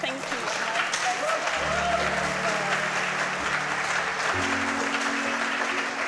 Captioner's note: audience clapping